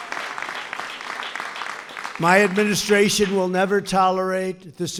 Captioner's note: applause